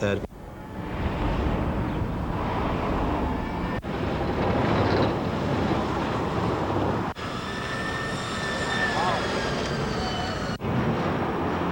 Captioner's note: cars revving and whirring